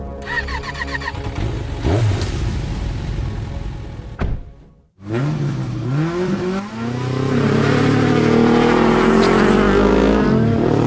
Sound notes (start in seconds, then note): 0.2 engines starting; 5.0 engines roaring